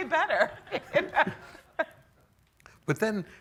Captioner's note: laughing